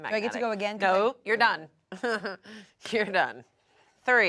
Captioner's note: chuckles